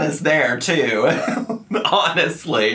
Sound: laughing

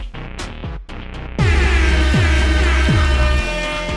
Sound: shitting music continues; insane airhorn noises; shitting music continues

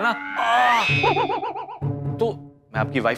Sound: yelps

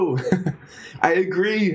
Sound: laughing

